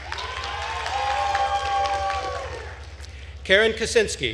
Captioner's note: attendees cheering and applauding